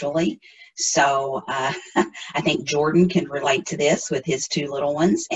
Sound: chuckles

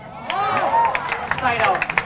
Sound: audience applauding and cheering

